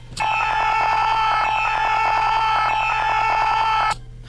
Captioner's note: Joe screaming